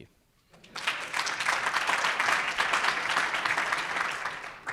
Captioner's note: audience applauds